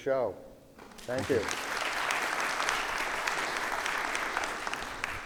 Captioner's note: audience applauding